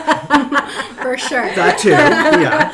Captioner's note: laughing